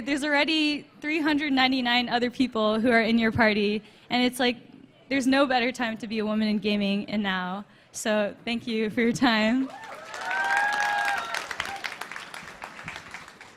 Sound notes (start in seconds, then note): 9.6 applause